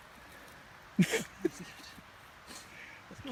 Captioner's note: laughs